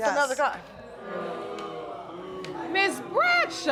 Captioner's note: audience booing